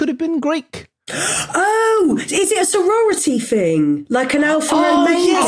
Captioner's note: gasp; clamor